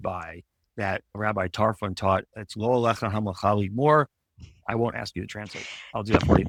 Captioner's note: speaks in Hebrew